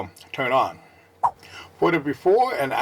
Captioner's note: swipe Sound